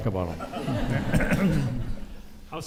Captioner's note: audience laughs